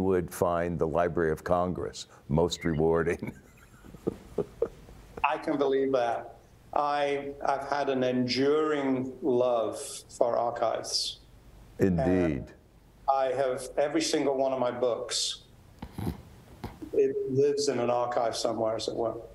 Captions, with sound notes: would find the Library of Congress most rewarding. [LAUGHS] >> I can believe that. I've had an enduring love for archives. >> Indeed. >> I have every single one of my books. It lives in an archive somewhere as it were.